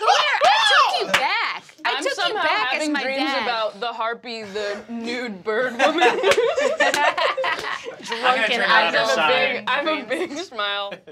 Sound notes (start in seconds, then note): 5.7 group laughing